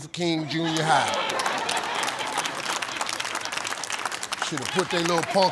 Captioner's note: audience laughs and applauds